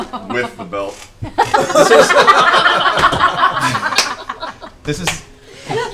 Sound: laughter

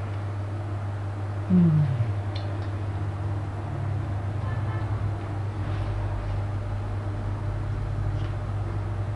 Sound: sighs

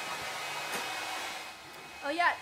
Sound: blow dryer humming

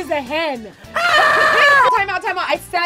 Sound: screaming

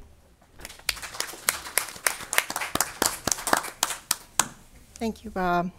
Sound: audience applause

